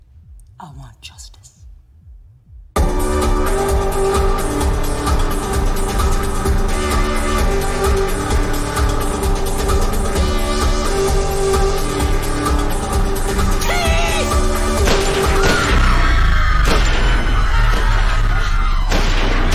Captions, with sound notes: I WANT JUSTICE. - THIEF! - ( gunfire ) ( crowd screaming )